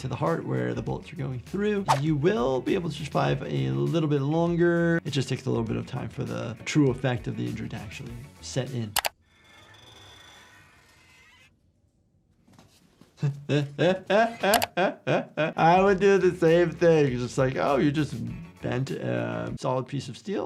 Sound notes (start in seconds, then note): 8.9 mouse clicking; 13.2 host laughing